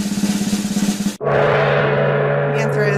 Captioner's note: drum roll; gong